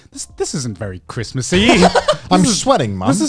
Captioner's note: chuckling